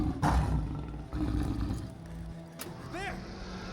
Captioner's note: growls